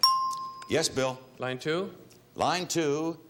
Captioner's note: bell dinging